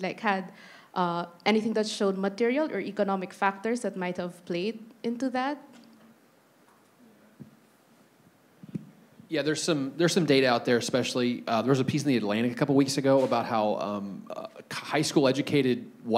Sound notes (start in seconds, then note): none